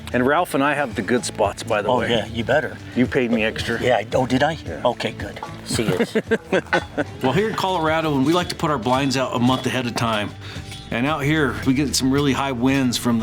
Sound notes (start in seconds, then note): 5.5 laughing